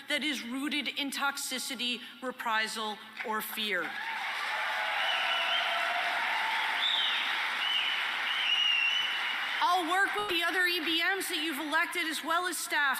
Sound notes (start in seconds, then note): 3.8 applause and cheering